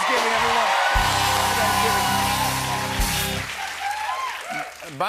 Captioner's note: cheers and applause